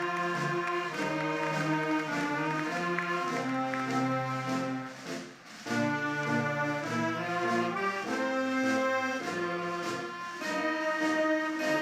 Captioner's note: cheers and applause